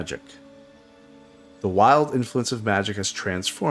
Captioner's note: none